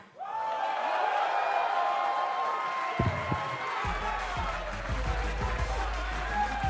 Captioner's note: cheers & applause